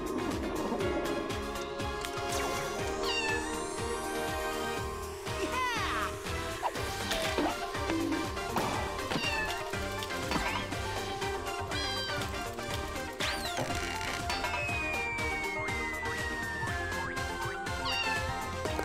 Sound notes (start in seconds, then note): 2.9 meowing; 9.0 meowing; 17.7 meowing